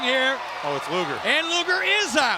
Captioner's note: audience cheers